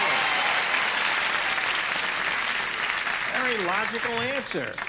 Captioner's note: applause